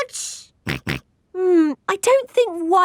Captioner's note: snorts